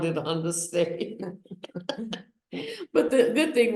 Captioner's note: laughs